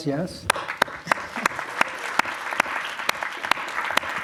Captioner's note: applause